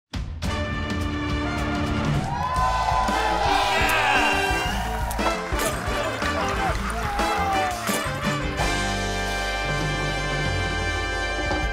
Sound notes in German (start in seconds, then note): 0.6 Dynamische Musik; 1.8 Jubel